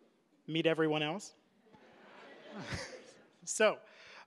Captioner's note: audience laughing